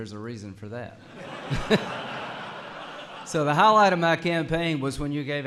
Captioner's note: laughter